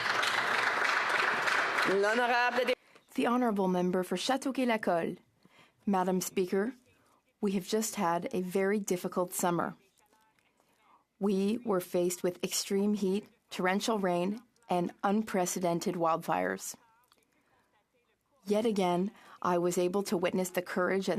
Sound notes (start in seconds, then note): 3.5 applause; 5.6 speaking in French